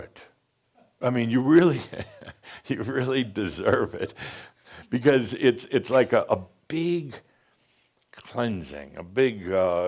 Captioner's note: chuckles